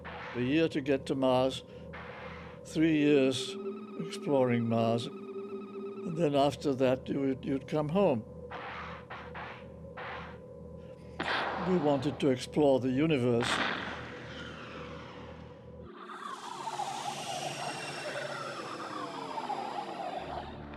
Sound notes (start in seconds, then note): 9.0 air hissing, small explosion; 13.4 explosion; 16.0 mechanical screeching